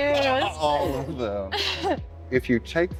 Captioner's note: laughter